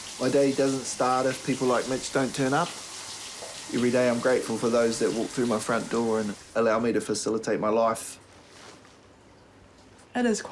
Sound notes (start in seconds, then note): none